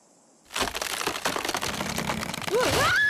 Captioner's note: tree Branch cracking; Leshawna Shrieking